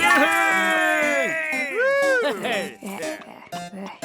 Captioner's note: cheers